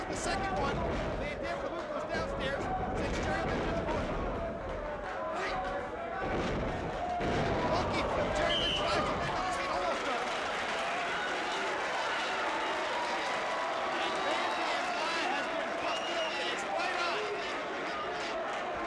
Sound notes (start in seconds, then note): 6.2 mat thumping; 10.7 audience applauding